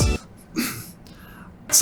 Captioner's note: clears throat